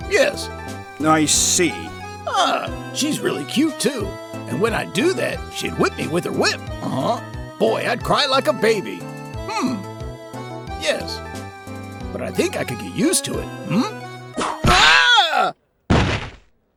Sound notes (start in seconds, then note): 14.4 whip crack!; 15.9 thud!